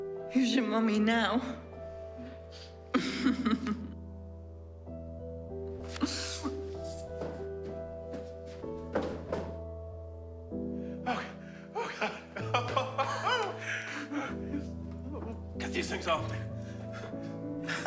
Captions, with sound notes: - Who's your mummy now? (chuckling) - Oh, oh, God. (laughing) Get these things off me.